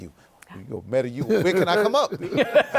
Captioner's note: laughs